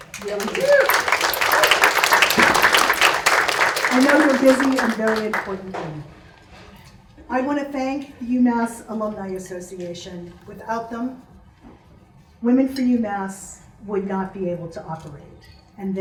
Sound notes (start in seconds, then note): 0.0 audience claps; 6.6 murmurs